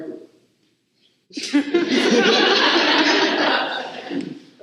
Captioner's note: laughter